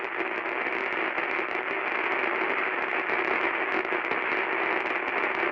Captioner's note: television crackling continues